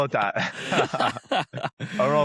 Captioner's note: laughter